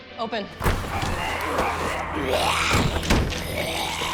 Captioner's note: zombies growling